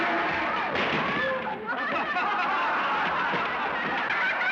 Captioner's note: laughter